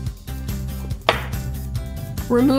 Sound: knife chop

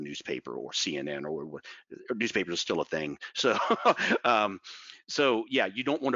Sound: laughs

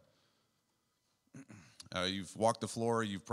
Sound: clears throat

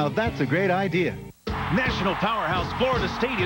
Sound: crowd cheering

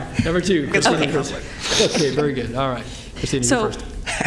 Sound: laughter

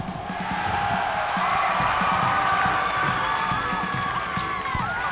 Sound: cheers and applause

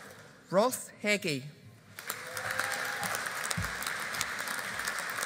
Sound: audience applauding

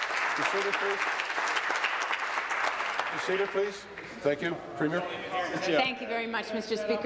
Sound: applause

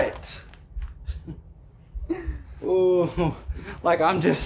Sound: 5-37 laughs to himself

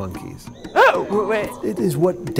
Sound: imitating monkey sounds

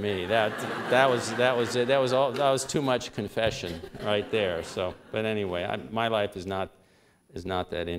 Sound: laughter

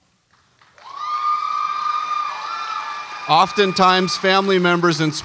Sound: audience applauds and cheers

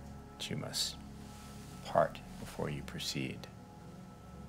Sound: none

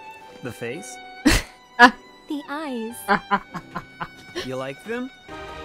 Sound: laughing

